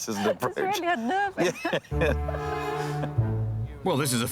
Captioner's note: laughs